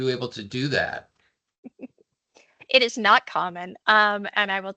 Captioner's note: chuckles